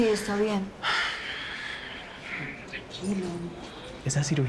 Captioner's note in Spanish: Suspiros